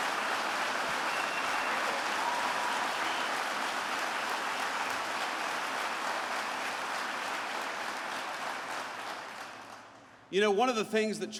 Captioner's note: applause